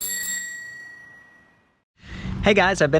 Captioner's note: bike bell rings